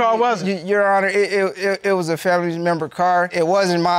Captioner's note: stammers